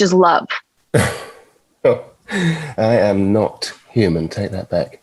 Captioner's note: chuckling